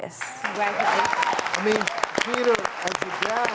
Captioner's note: audience applauding